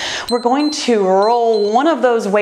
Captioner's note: timer beeps